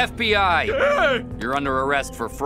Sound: scream

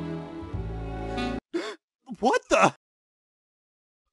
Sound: gasp

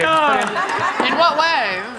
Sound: audience laughs

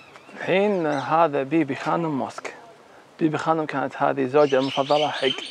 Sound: speaking foreign language

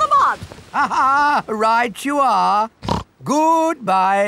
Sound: laughs; snorts

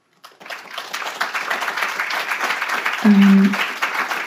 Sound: audience applauds

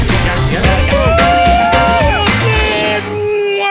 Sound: cheering

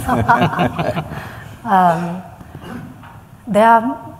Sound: laughter

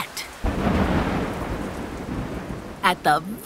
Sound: thunders

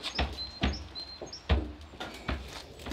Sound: knock

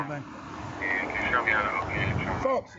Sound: random radio chatter

